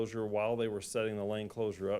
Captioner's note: none